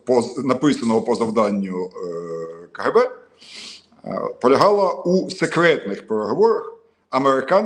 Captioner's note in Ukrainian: сопіння